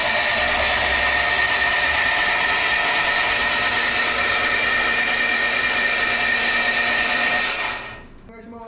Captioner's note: cranking sound resounds